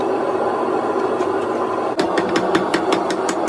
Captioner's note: hammering